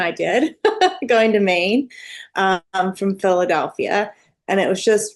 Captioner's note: laughs